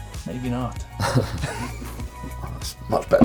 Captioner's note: chuckles